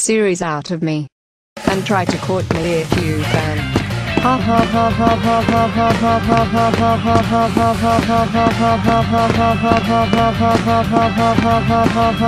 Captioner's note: laughs